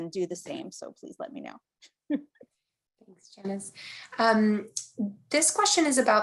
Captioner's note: chuckling